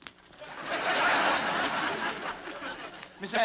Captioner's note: laughter